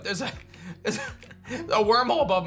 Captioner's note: chuckles